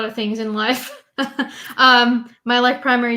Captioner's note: chuckles